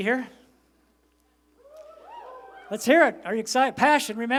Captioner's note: shouting